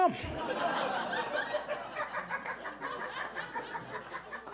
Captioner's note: audience laughing